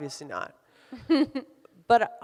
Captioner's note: laughs